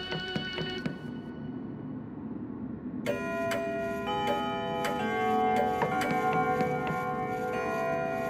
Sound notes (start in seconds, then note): 3.1 clock chiming